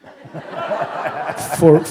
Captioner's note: laughter